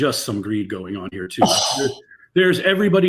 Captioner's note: scoffs